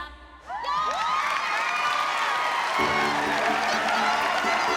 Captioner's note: applause, cheering